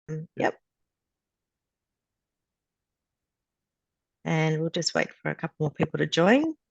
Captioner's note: long pause